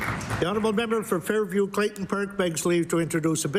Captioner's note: applause